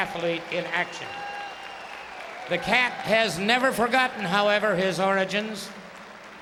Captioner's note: applause